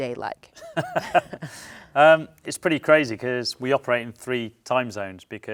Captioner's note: laughs